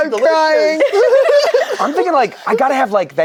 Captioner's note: group laughs